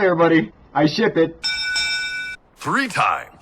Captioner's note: ding ding